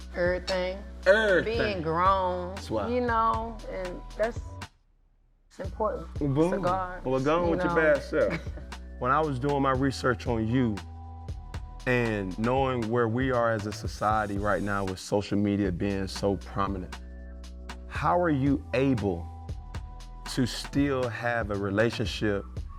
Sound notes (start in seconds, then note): 7.6 laughing